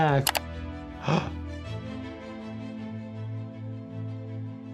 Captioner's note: gasps